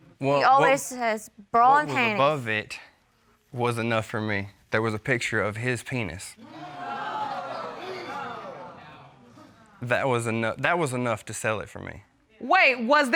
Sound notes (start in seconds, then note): 6.4 audience groans